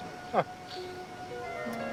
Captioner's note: laughs